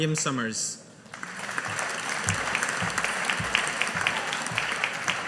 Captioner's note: audience applauding